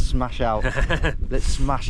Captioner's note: laughing